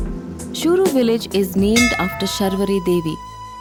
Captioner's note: upbeat music; bell chimes